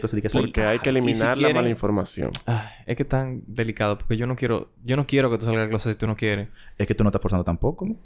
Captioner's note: sigh